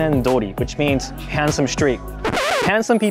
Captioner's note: record scratching